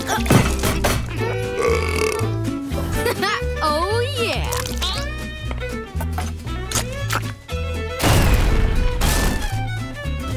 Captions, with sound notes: [burping] Ha, ha. Oh, yeah.